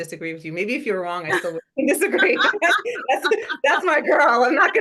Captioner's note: laugh